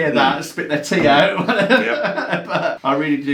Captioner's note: laughs